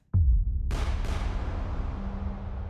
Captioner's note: gun fires